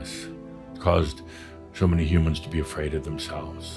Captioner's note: none